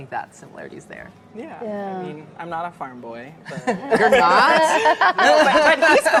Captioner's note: laughing